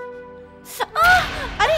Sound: groans

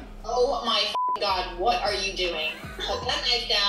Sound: beep

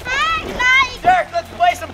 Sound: shouting

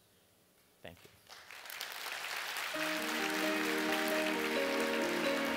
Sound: applause

